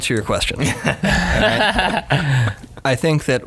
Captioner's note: guys laughing